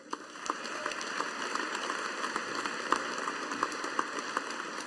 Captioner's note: audience applauding